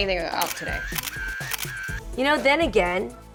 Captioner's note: camera shutters